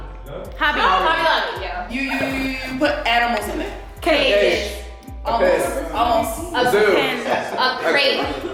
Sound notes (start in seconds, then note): 5.3 guests chatter